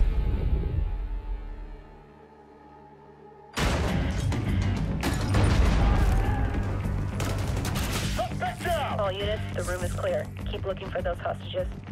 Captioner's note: fighting, gunfire